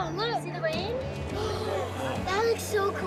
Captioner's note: gasping